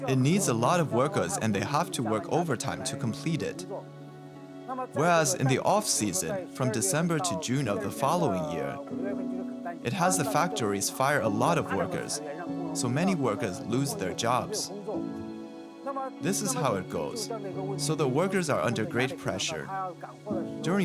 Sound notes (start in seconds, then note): none